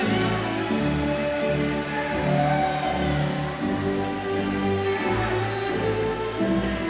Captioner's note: crowd chattering; stately celebratory music